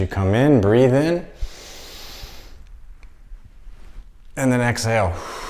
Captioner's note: inhaling; exhaling